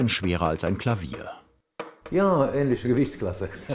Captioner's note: laughs